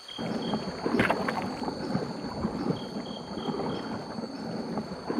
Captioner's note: water splashing